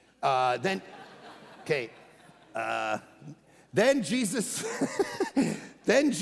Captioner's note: congregation laughing; laughing